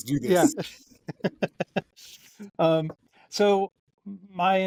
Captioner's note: chuckles